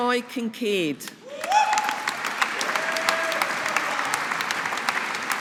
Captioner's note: audience applauding